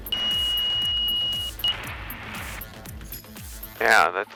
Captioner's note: airplane beeping